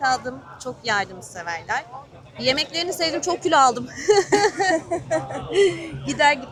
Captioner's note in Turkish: kahkaha